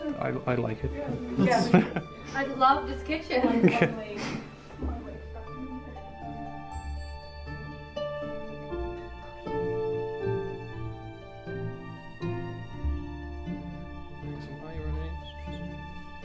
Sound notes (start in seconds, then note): 1.4 laughs; 4.0 mysterious Piano Music; 4.6 soft background chatter